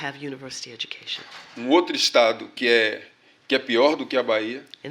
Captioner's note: speaking portuguese